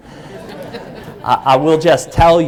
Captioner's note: laughing